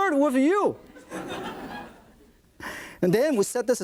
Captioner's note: audience laughs